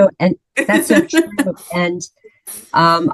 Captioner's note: laughs